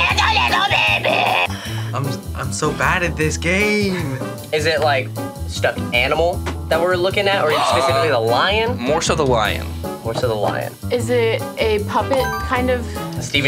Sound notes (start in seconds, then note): 8.9 gasps; 12.2 bell dings